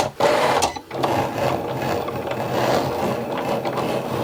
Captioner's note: Cricut rumbling